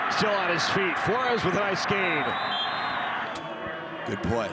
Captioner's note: referee blows whistle